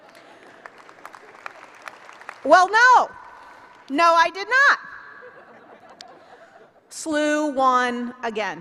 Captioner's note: applause; laughter